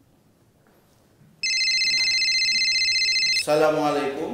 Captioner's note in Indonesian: dering telepon